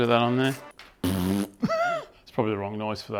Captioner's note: fart noise